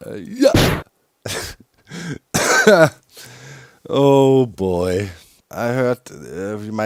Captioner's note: cough-laughs